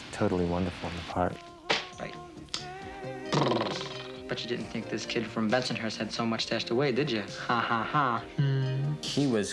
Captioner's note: mouth noise